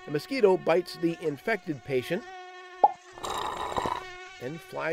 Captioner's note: slurping